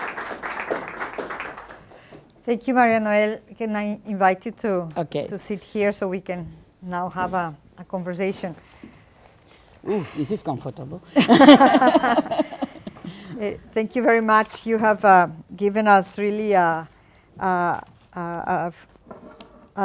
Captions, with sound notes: - Thank you, María-Noel, can I invite you too? - Okay. - To sit here so we can now have a conversation. - Ooh, is this comfortable! (general laughter) - Thank you very much. You have given us really a,